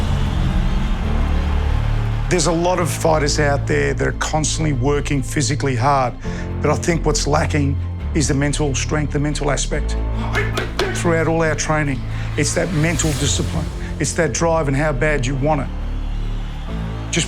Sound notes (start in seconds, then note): 0.0 crowd cheering; 10.2 grunting